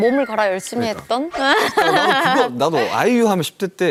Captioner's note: hahaha